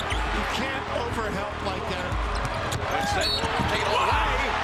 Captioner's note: whistle blows